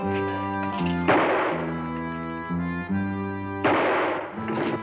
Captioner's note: gunshot bangs